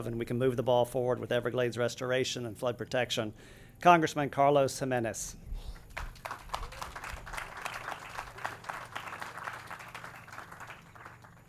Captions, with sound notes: and we can move the ball forward with Everglades restoration and flood protection, Congressman Carlos Gimenez. (audience claps)